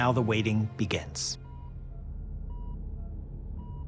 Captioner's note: electrocardiogram beeping